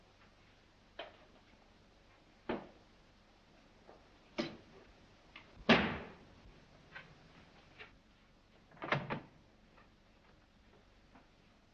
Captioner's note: noises & "Clack!" from Offscreen